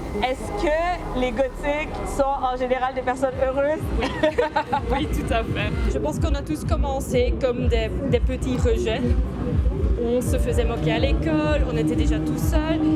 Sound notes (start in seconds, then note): 4.0 laughter